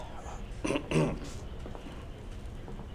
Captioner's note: clears throat